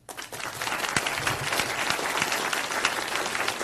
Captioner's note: applause